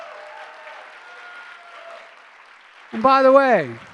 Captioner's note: applause